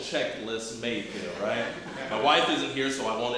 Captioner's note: audience chuckling